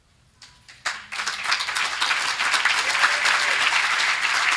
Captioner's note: group clapping